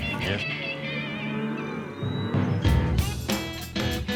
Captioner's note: mooing